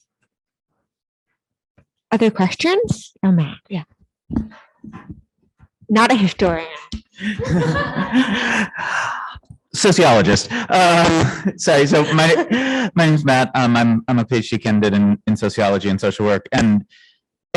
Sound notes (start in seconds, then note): 7.2 audience laughing